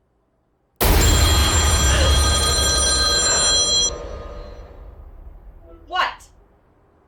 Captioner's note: jump scare music; phone rings